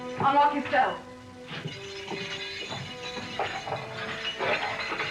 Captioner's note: keys jiggling